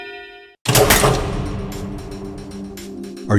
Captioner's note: clock ticking